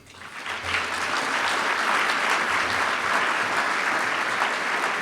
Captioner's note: applause